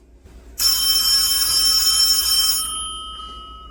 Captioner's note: phone ringing